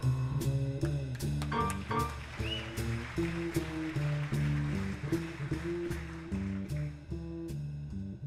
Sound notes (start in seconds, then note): 1.1 audience applauding; 1.5 audience cheering